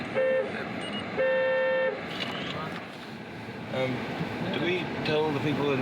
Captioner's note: horn Honking